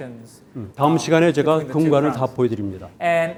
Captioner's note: speaking in Korean